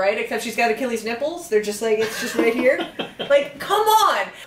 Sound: laughs

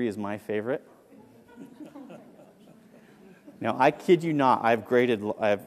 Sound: laugh

